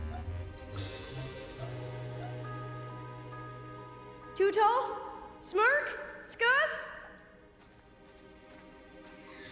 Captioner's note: gasping